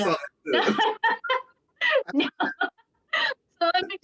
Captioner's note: laughter